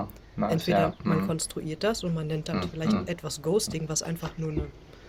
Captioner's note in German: räuspern